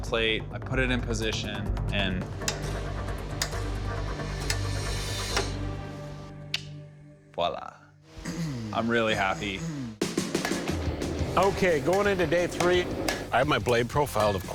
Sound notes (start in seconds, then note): 2.4 ratchet clicking; 5.9 clicks tongue